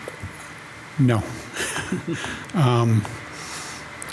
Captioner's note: chuckles